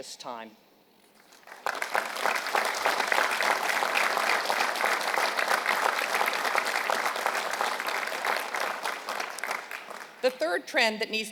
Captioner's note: applause